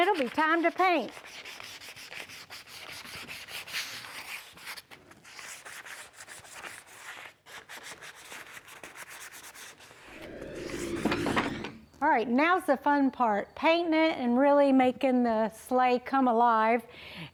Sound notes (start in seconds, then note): 0.9 sanding